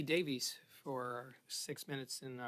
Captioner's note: speaking French